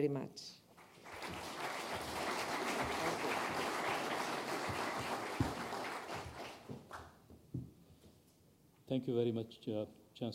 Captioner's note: applause